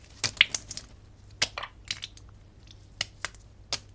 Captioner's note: sound of egg splatting